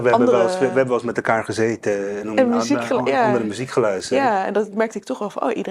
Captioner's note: Javanese